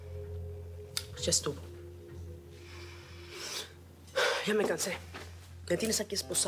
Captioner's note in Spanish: exhala; exhala